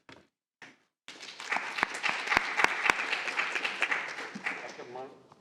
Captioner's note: applause